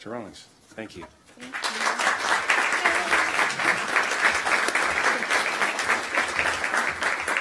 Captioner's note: audience clapping